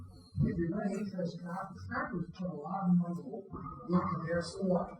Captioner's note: speaking faintly